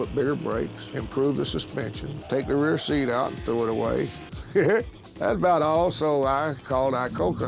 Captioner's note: chuckles